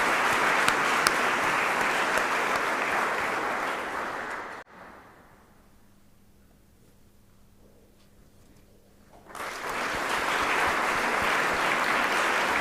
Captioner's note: applause